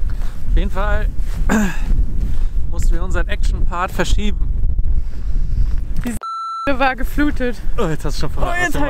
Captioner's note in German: piep